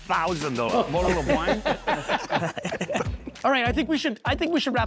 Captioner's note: laughing